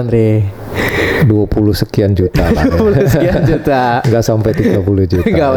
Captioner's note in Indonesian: tertawa